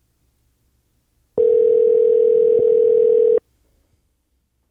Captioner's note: phone ringing